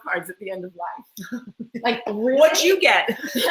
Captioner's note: laughs